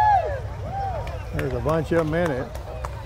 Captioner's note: people cheer and clap